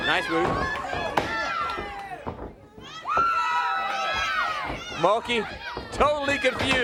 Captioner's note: crowd chatter